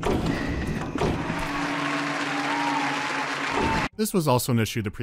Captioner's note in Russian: радостные апплодисменты